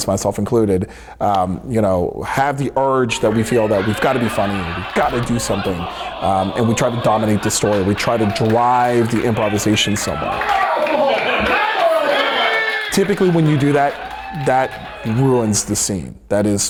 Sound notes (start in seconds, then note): 11.6 audience applause